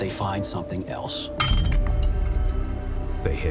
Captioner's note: pickaxe clinks